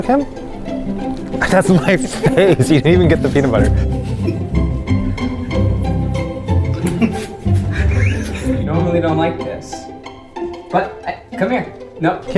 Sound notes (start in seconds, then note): 0.0 upbeat music; 6.2 laughing